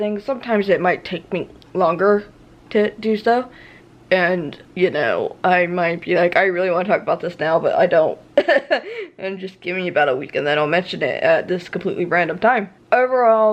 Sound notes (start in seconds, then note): 8.4 laughs